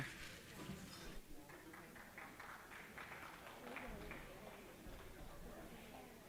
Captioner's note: applause